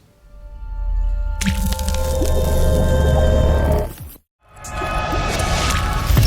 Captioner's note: water dropping sonic blast